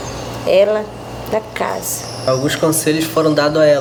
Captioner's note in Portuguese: pássaros cantando